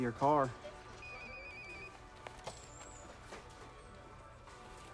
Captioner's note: phone rings